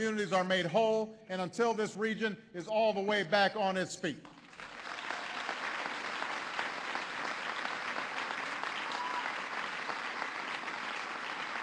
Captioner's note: applause